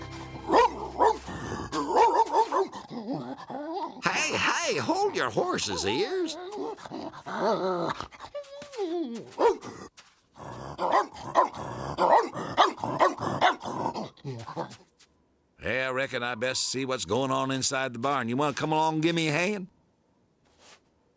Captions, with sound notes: [BARKING EXCITEDLY] HEY, HEY! HOLD YOUR HORSES, EARS. [GROWLING] [WHINING AND BARKING] WELL, RECKON I'D BEST SEE WHAT'S GOING ON INSIDE THE BARN. YOU WANT TO COME ALONG AND GIVE ME A HAND?